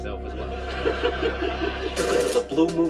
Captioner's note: laughter